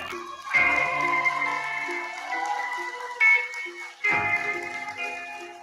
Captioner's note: cheering